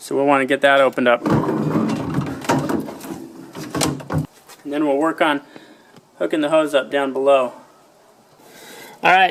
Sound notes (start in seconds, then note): 1.2 metal clangs